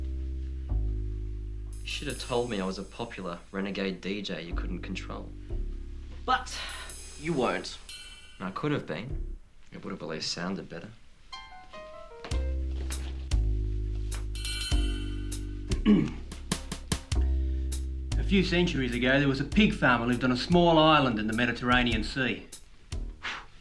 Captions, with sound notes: (melancholy music) - You should have told me I was a popular renegade DJ you couldn't control. - But you weren't. - I could have been, it would've at least sounded better. (Alan clears throat) - A few centuries ago, there was a pig family lived on a small island in the Mediterranean sea.